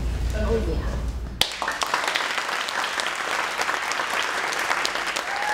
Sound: cheering and applauding

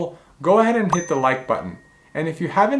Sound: bell dinging

